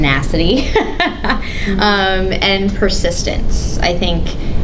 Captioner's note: laughs